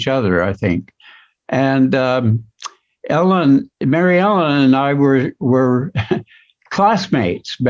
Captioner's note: chuckles